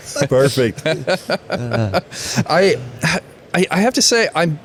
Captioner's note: all laughing